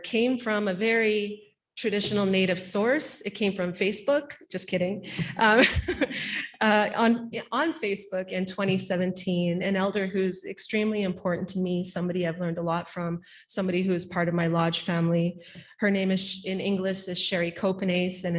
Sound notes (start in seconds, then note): 5.1 laughing